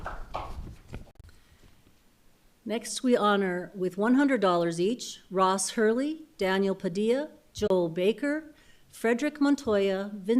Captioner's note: applause